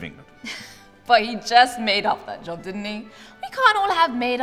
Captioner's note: chuckles